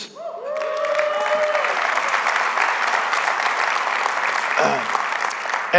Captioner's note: congregation cheering; congregation applauding